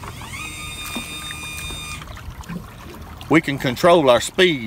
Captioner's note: mechanical whirring